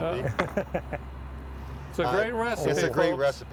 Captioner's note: laughing